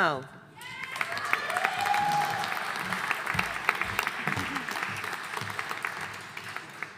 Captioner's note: audience cheering and applauding